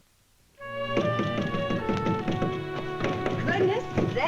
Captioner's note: knocking